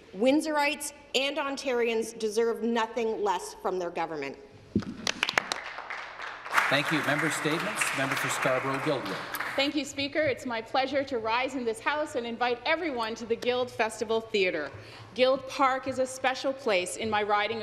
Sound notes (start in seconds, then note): 8.4 applause